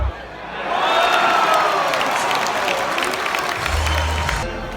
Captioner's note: crowd roars